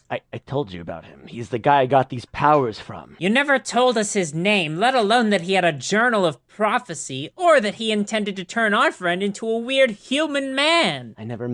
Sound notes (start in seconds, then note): none